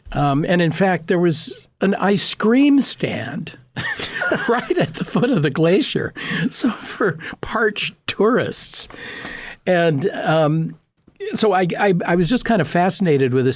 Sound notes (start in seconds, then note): 3.8 laughing